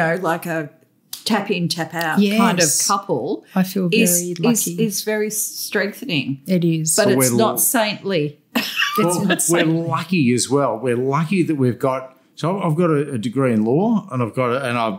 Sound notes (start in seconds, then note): 8.5 laughter